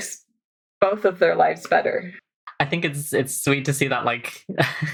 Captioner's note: laughing